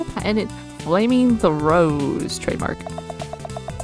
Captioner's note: none